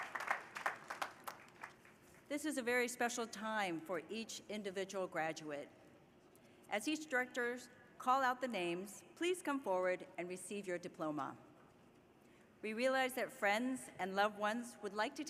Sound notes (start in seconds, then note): 0.0 applause